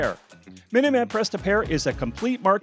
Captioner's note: voiceover